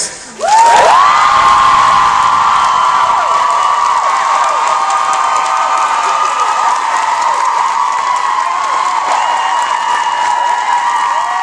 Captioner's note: audience cheers